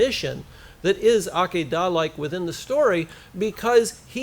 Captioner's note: foreign language